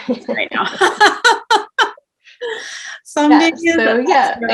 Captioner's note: both laughing